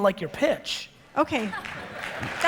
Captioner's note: audience laughter